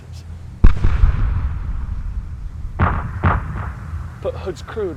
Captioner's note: projectiles fire